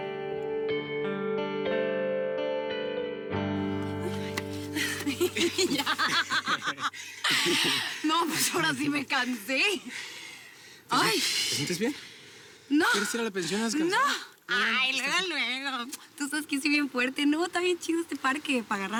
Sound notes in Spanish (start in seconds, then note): 4.7 risas